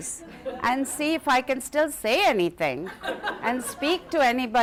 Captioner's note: laughter